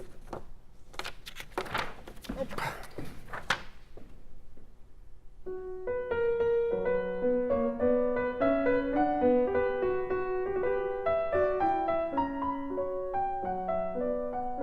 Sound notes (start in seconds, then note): 0.8 pages Turning; 5.4 piano Music